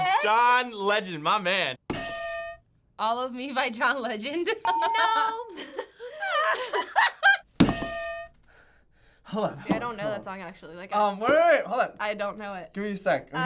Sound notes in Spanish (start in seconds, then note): 2.0 ding; 4.7 risas